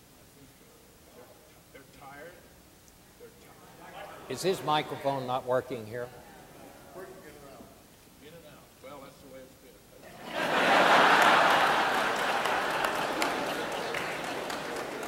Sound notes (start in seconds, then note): 10.1 audience laughing and applauding